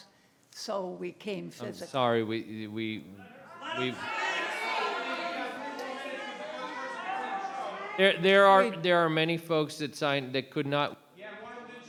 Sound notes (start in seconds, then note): 6.1 public interjecting; 11.7 public interjecting